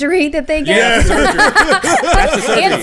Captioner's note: laughter